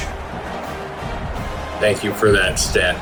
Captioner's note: crowd Noises